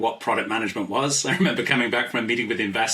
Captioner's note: laughs